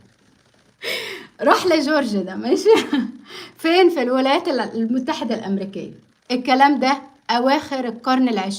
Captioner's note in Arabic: شهيق; ضحك